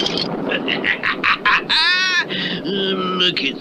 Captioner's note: Simon Bar Sinister Laughs